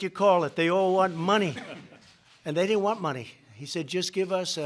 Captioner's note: laughter